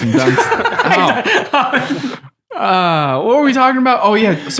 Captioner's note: innocent laughing